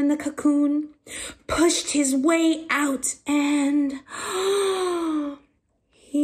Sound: gasp

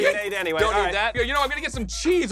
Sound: squeals

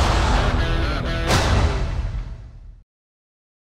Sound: logo thudding

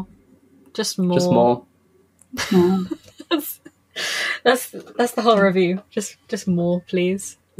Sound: laughs

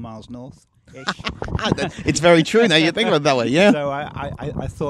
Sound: laughs

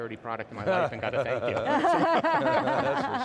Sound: everyone chuckling

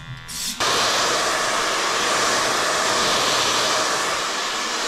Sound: hair dryer roaring

